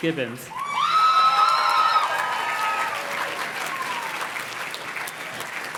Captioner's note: audience cheers and claps